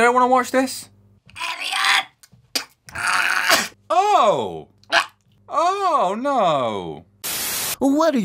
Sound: choking

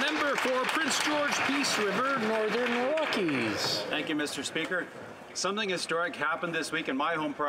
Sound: some Applause

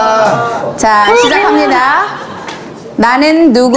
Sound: cheering

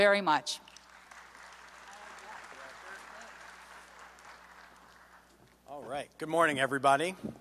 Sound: applause

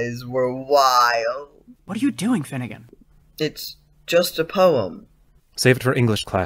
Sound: whispered

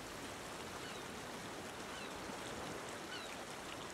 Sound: waves and sea birds

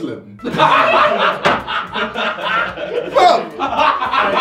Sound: everyone laughing

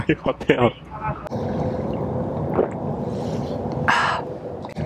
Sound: gulps

